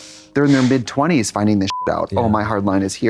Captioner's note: beep